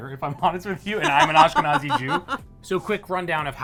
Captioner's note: laughing